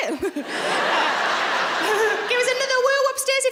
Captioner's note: laughing